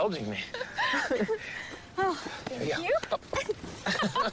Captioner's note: laughing